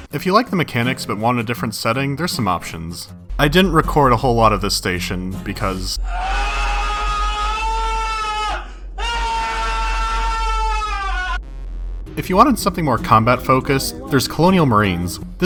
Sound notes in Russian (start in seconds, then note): 6.0 крик вселенского страдания